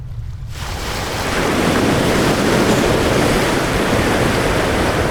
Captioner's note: water whooshes